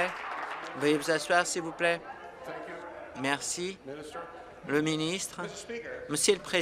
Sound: applause

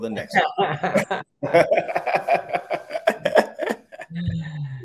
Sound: laugh

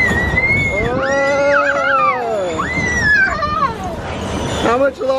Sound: exclaims

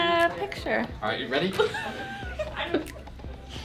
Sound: laughing

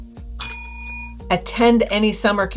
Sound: bell rings

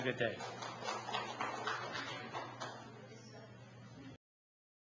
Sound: audience clapping

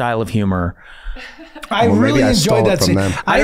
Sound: laughing

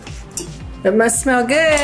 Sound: plate clattering

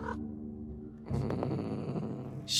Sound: cat trill; upset cat trill

